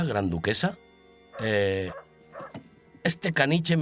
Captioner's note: dog barks